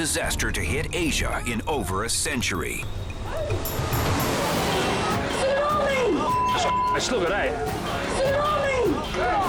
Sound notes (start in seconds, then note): 6.2 beep